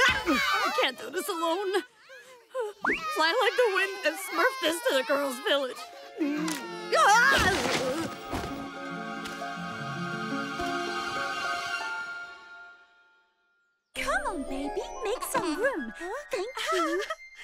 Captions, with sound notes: I can't do this alone. Fly like the wind and smurf this to the girl's village. [groaning] Come on, baby, make some room. Thank you.